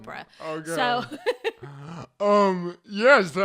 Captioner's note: laughs